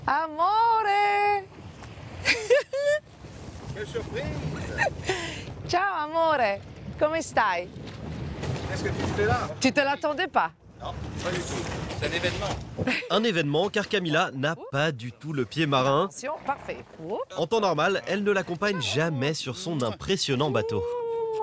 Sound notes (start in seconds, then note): 2.2 laughs; 5.5 in Italian